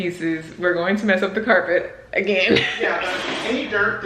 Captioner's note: laughs